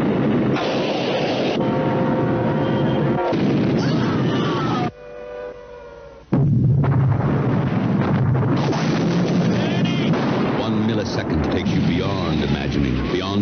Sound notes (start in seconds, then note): 0.1 rocket rumbling; 3.8 woman screaming; 6.3 exploding